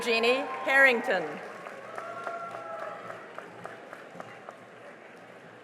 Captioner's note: cheering and applause